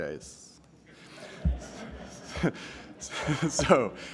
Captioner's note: laughter